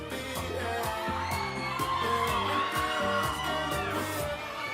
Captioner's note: audience cheering